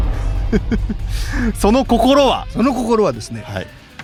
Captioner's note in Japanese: 笑い